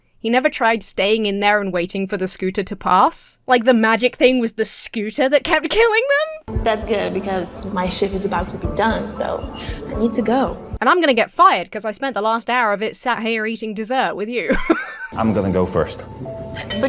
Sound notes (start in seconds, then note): 14.4 Emma laughs